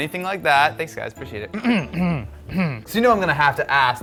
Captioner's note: coughing